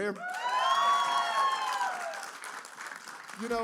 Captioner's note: cheers and applause